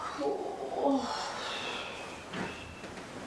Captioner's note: wind blowing; Alice groans